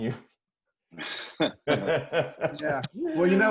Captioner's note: and host laughing